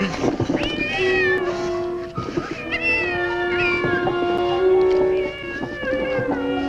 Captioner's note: cat Meowing